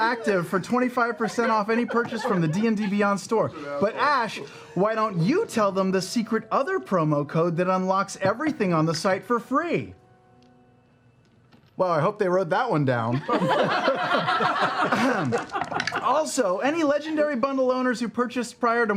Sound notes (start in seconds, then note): 9.8 silence